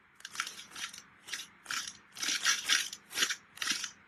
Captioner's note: bag ruffling